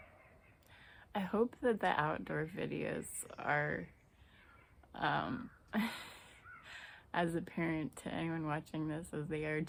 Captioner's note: laughs